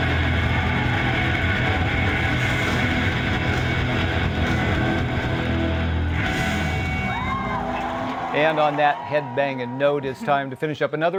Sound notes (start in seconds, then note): 6.5 cheers and applause